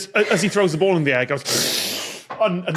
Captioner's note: slurps loudly